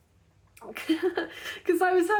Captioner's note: giggling